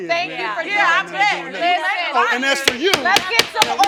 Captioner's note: all yelling